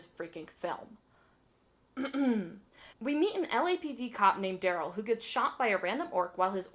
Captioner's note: ahem